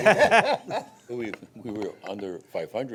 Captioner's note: laughing